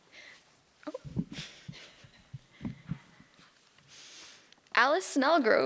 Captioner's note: giggles